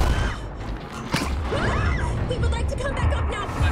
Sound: screams

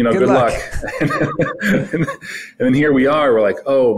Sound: both laughing

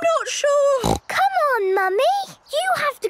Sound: snorts

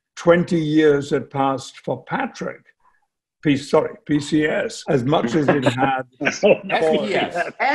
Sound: laughs

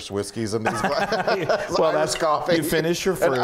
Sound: laugh

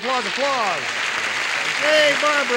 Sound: applause

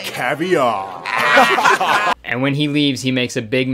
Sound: pub patrons laughing

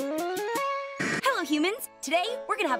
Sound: musical flourish; static

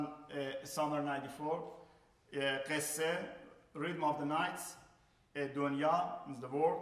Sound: speaking in farsi; speaking in farsi

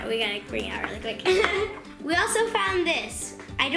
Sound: laughing

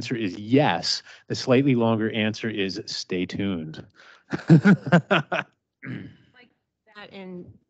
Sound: laughs

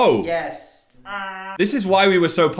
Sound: squawks

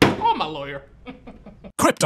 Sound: laughs

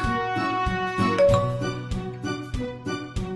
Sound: Messenger pings

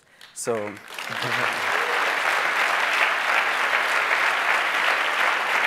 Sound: audience applauds

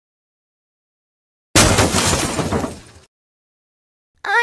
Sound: crash!

